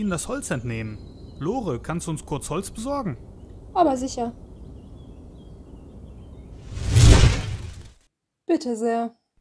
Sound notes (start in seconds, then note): 6.6 whoosh